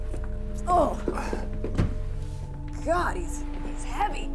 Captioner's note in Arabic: جوان تتأوه